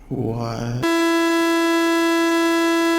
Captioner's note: glitch sound